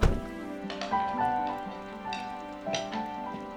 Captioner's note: utensils clinking